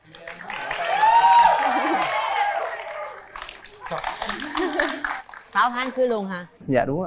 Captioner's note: applause